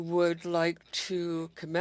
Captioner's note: speaking French